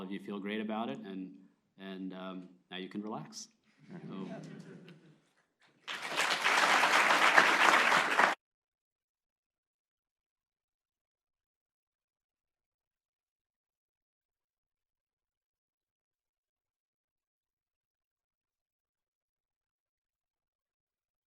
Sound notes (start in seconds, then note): 3.8 laughter; 5.8 applause